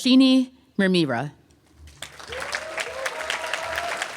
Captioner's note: applause